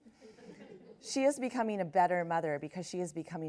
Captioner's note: laughs